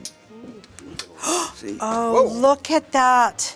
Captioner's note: clicking; gasp